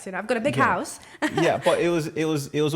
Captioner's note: laughter